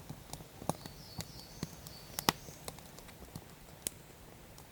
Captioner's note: fire crackling